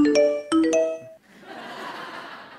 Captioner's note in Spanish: Risas